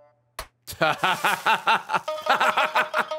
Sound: laughs

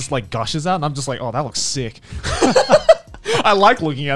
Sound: laughing

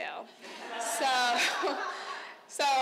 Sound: crowd laughing

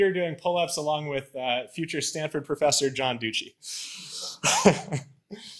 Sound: laughs

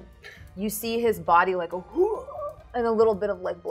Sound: gasping

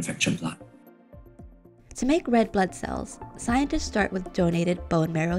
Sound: voice-over

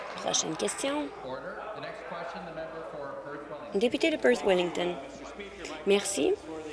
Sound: applause

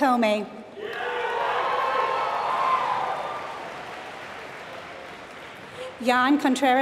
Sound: applause

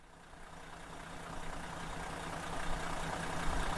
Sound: engine whirring

